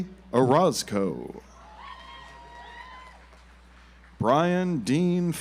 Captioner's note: audience applauds